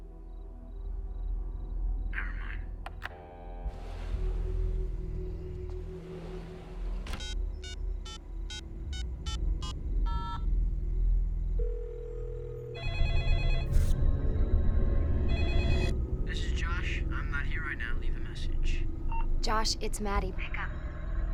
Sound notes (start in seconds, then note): 2.9 dial tone rings; 2.9 phone clicks; 7.1 keypad beeping; 11.6 line ringing; 12.2 phone ringing; 16.1 Josh On Voicemail; 18.9 tone beeps